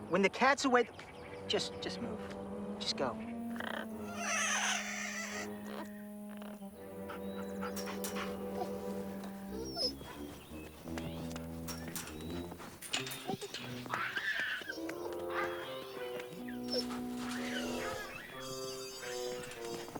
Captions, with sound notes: when the cats away, just, just move, just go. (parrot chirping) (wolf panting) (soft curious music)